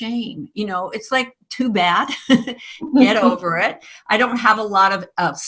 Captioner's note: chuckles